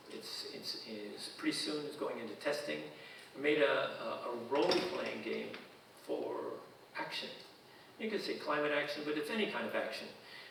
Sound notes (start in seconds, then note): none